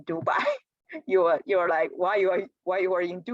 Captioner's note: laughter